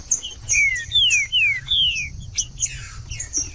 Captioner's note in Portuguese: trinca ferro cantando